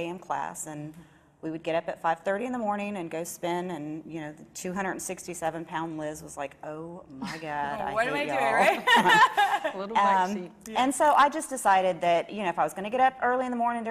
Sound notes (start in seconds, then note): 8.6 laughs